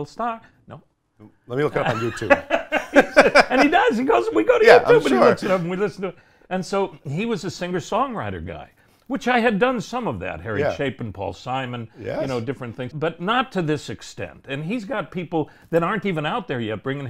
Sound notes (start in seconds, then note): 1.7 laugh